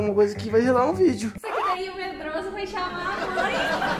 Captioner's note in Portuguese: Risadas